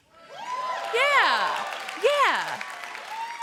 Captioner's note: applause